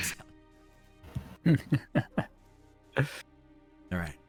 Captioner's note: chuckles